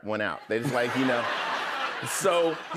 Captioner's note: laughter